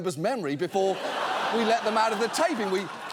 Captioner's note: audience laughs